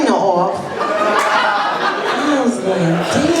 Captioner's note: laughter